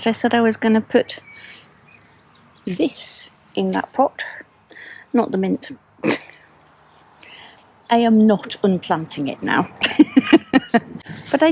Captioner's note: laughter